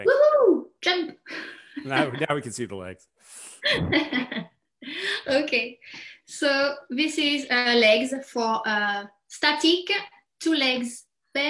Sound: chuckles

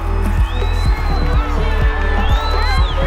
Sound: cheering

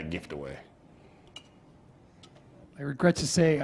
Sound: pause

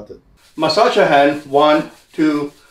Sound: hands rubbing

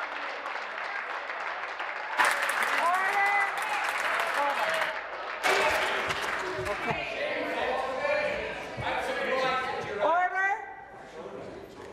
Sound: applause

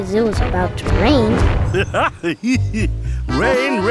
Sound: laughing

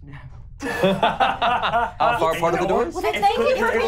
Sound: laughing

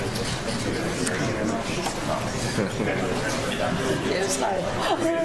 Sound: attendees chatter

